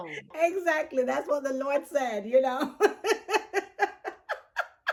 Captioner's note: laughs